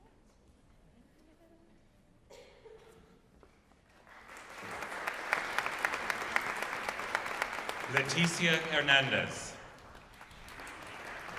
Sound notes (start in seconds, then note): 3.9 applause